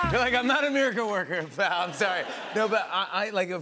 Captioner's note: laughter